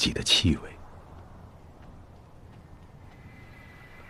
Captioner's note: wind blowing